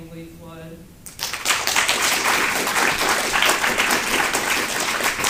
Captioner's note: applause